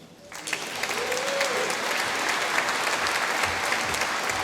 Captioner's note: applause